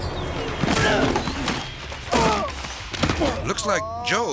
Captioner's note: grunts